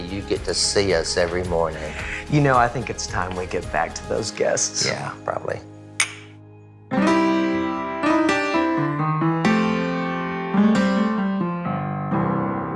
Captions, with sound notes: you get to see us every morning. - You know, I think it's time we get back to those guests. - Yeah, probably. (mugs clink) (upbeat music)